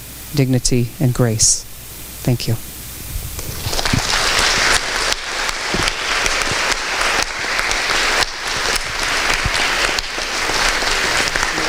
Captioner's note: applause rings out through the auditorium